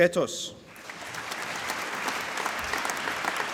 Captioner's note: applause